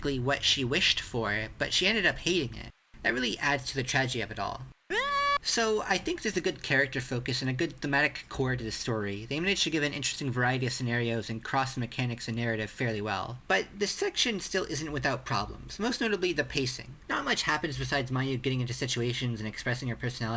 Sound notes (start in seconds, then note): 4.9 Morishige scream